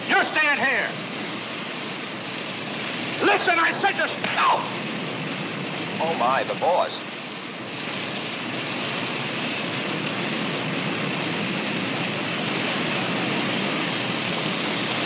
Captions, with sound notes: - You're staying here! Listen, I said you're-- (Sanford cries out) - Oh my, the boss. (fire crackling)